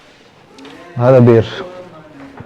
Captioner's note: Arabic